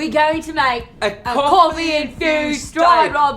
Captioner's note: imitating british accent